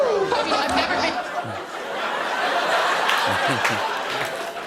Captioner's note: laughter